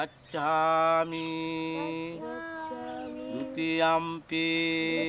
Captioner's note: chanting in foreign language